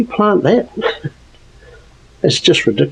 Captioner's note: laughs